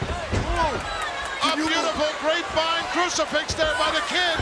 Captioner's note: announcer speaking faintly off mic